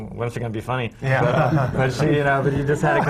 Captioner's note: laughter